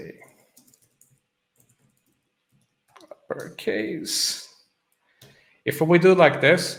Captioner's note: typing